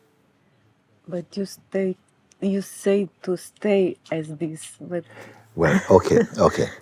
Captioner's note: questioner 1 laughs